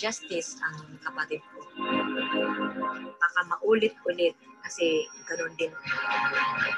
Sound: speaking in foreign language

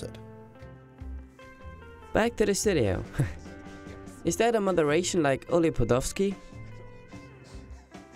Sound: laughs

